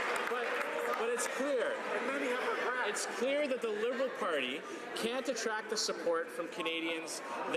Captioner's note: some Applause